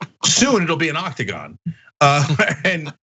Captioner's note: laugh